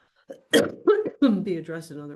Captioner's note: coughs